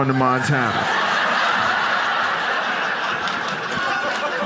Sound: audience laughs

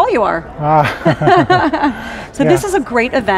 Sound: laughing

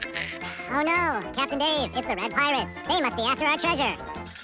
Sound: speaking fast forward

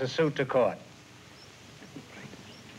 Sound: whispers

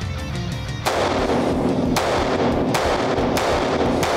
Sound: cocks gun; gunshot sound

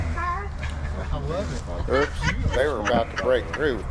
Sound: laughs

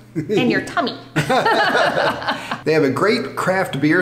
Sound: both laughing

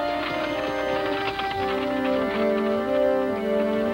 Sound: wagon rattling

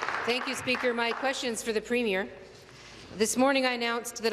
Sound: applause

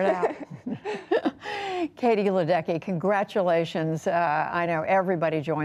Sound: laughter

